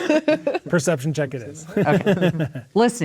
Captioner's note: laughing; players laughing